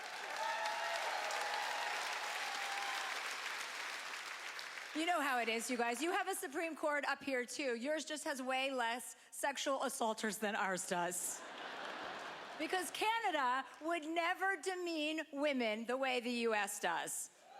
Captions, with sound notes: (applause) You know how it is, you guys. You have a supreme court up here too. Yours just has way less sexual assaulters than ours does. (laughter) Because Canada would never demean women the way the US does.